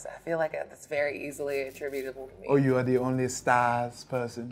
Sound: none

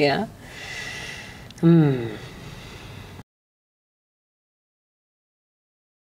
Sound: therapist breathes deeply

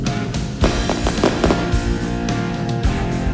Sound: fireworks pop; band plays

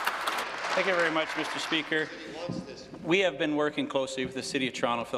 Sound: applause

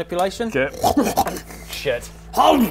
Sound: offended oinking

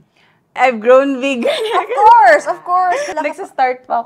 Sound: laughs shyly

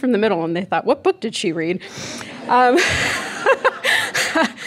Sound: laughing

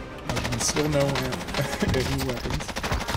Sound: gunshots

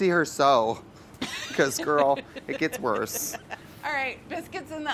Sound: laughs

